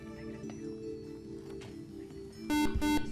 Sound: buzzer

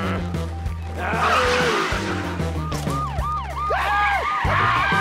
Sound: siren wailing

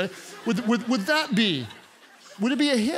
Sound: congregants laugh

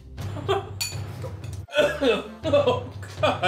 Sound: laughing

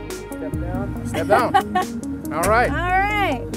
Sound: laughs

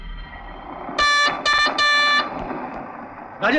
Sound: horn blares

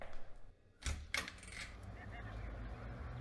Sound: door open

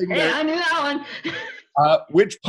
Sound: chuckling

